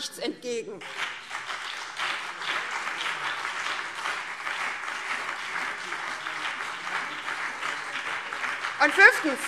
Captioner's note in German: Beifall